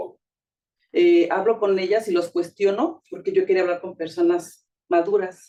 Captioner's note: speaking Spanish